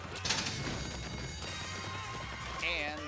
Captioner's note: hooves pounding